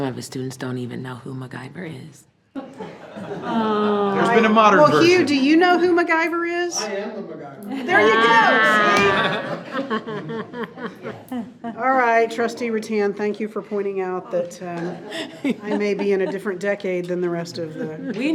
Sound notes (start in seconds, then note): 2.8 board chuckling; 10.5 board member chuckling